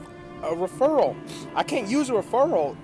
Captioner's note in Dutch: snuift